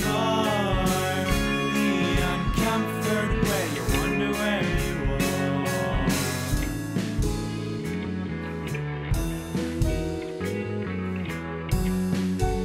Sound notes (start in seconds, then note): none